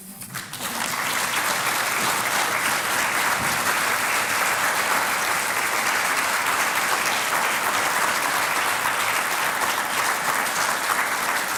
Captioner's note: applause